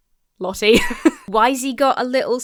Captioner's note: laughs